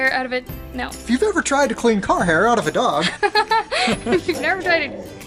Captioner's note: laughter